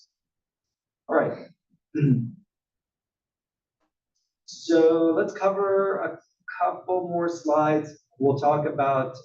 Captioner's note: cough